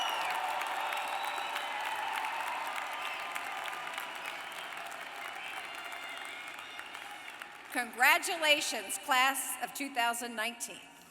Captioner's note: applause